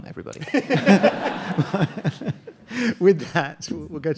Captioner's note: audience laughing